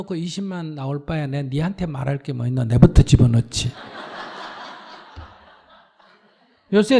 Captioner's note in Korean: 청중 웃음